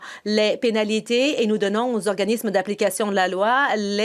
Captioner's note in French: voix de l'interprète